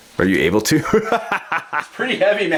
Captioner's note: voiceover; laughs